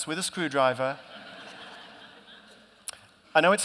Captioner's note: laughter